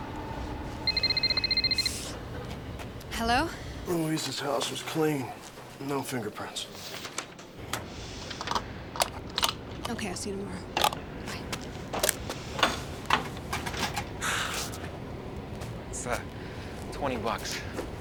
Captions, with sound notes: - Hello. - Louise's house was clean, no fingerprints. (clicking) - Okay, I'll see you tomorrow, bye. (sighs) - It's, uh, 20 bucks.